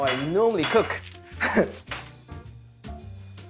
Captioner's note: chuckles